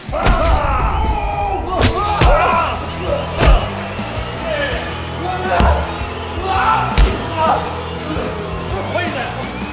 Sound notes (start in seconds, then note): 0.1 thud; 3.4 smack; 5.2 crowd cheering